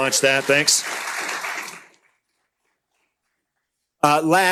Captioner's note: applause